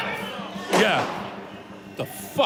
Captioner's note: gunshot